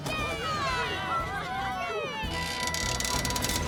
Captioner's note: all Cheering; bus Creaks Loudly